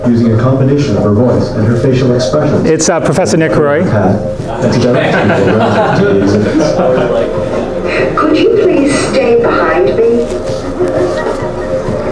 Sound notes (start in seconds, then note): 4.4 students laughing